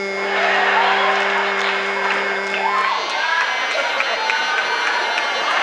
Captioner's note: audience laughs and cheers